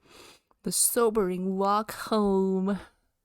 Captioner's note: nasally